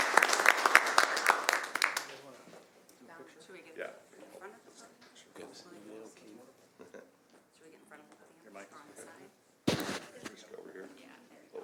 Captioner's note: applause